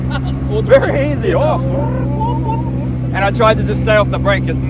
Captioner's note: car noises